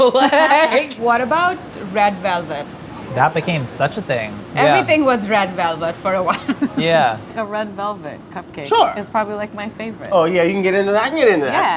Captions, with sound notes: [laughs] - What about red velvet? - That became such a thing, yeah. - Everything was red velvet for a while. [laughs] - A red velvet cupcake. It's probably, like, my favorite. - Oh, yeah, you can get into that? I can get into that.